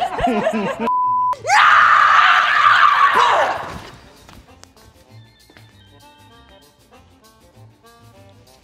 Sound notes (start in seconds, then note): 0.8 beep; 1.4 screaming